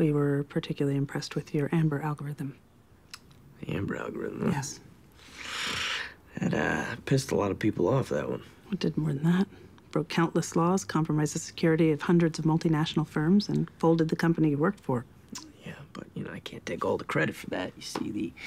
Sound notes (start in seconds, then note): 5.2 scoffs